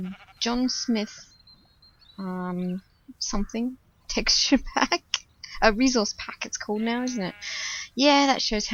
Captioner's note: laughs